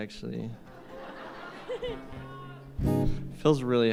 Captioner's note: laughter